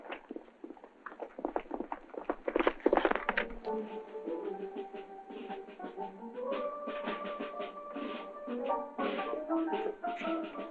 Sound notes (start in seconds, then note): 0.5 hooves galloping